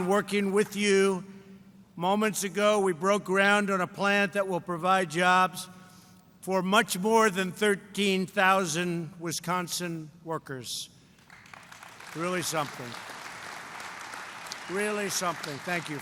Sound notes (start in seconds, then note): 11.1 applause